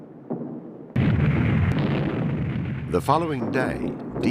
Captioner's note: heavy artillery booming